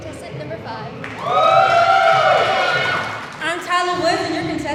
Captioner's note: audience cheering